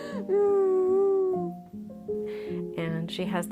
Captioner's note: crying